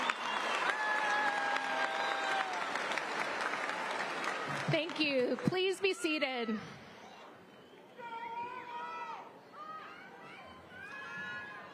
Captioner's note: applause